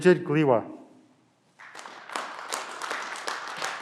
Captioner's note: clapping